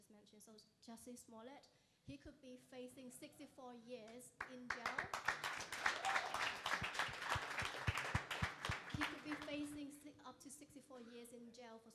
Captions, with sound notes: so Jussie Smollett, he could be facing 64 years in jail. (crowd applauding) He could be facing up to 64 years in jail